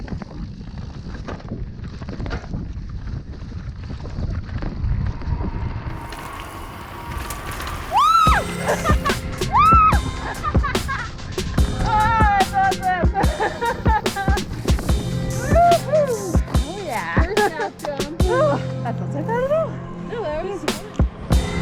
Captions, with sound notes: - Wooo! (laughing) - Woohoo! - Oh, yeah! - That wasn't bad at all.